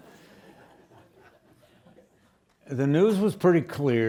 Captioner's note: students laughing